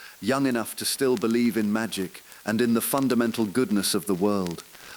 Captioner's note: voice trembling; exhale